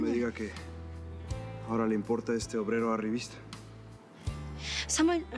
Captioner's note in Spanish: none